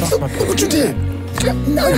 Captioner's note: crying